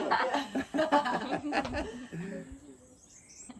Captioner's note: laughter